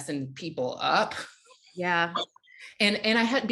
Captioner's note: laughing